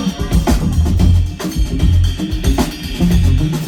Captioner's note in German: Husten